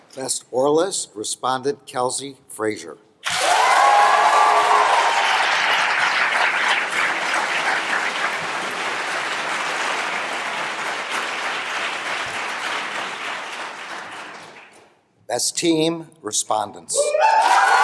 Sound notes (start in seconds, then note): 3.2 applause; 17.3 applause